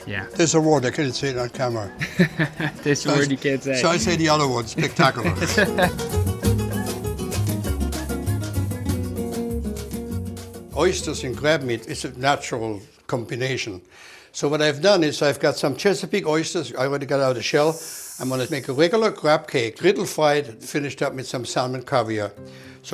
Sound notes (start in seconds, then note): 1.9 laughing; 5.5 laughing; 6.3 upbeat music